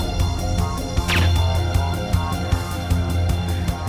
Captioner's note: gun fires